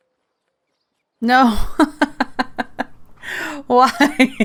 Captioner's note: laughs